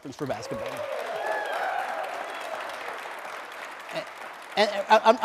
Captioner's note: applause, cheering